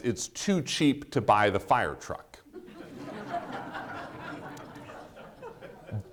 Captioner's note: audience laughing